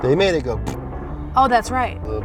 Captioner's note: imitates glue splattering